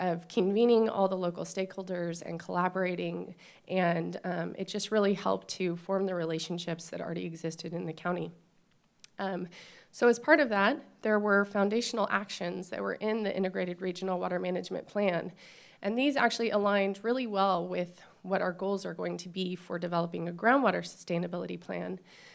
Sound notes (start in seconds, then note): none